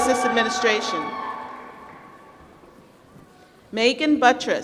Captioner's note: applause